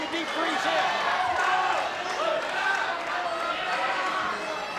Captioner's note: audience cheering